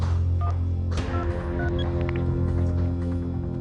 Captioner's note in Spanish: Sonido al marcar